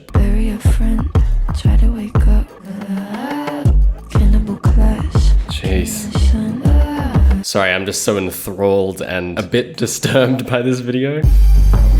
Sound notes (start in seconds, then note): 5.2 ahh